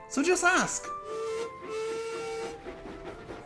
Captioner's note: duncan whistles